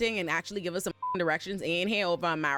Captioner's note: beep